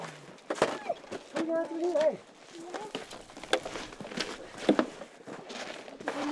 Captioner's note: speaking foreign language